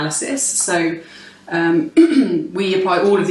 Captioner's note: clears throat